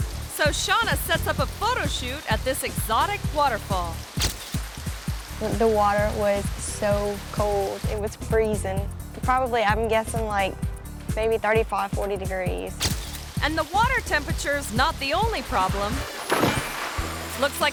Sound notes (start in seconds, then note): 4.1 camera clicks; 16.2 water splashes